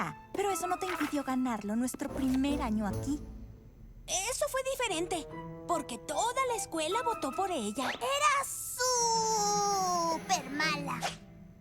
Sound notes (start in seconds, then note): none